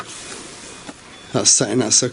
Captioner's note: pressure sensor beeps